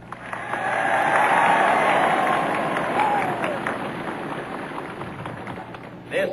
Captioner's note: applause